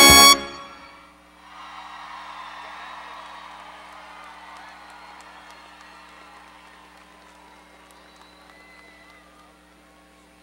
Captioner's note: applause